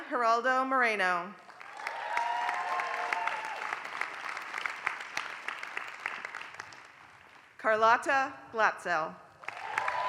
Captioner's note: applause; applause